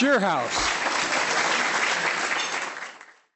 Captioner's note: applause